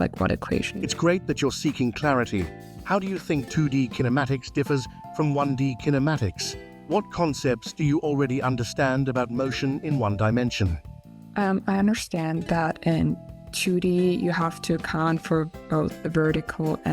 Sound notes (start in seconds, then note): none